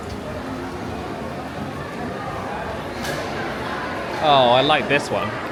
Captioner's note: crowd murmuring